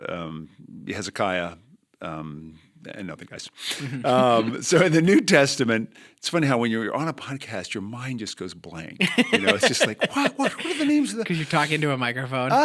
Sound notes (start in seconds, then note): 3.6 chuckle; 9.0 laughter